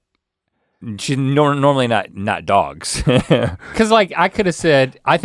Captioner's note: Rhett chuckles